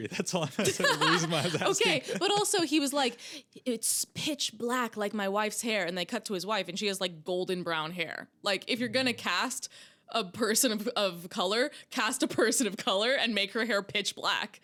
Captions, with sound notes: That's all I'm gonna say. (laughing) Okay, but also he was like, it's pitch black like my wife's hair, and they cut to his wife, and she has golden brown hair. If you're gonna cast a person of color, cast a person of color and make her hair pitch black.